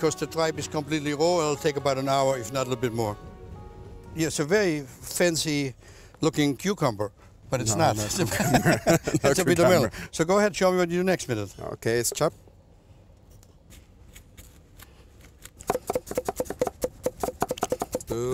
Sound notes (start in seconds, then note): 7.9 laughing; 13.9 scraping; 15.3 chopping